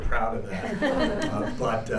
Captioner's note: laughter